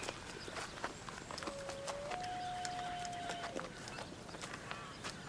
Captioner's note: owl calling